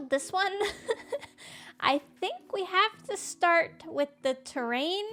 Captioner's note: laughs